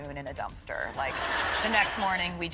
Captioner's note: crowd members laughing